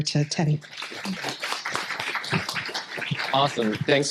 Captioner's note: applause